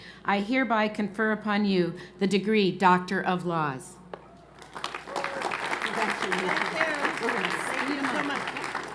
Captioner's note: applause